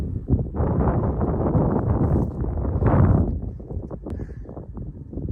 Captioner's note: wind roaring